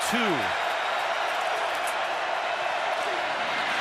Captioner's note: crowd cheering